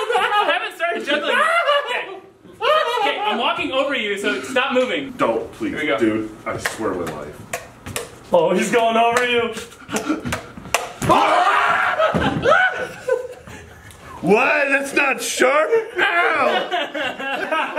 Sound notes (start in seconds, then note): 9.8 shivers; 10.8 yells; 12.7 laughs